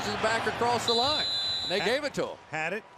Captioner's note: whistle